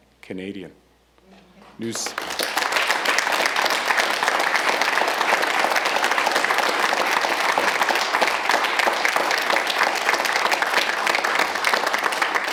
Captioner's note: applause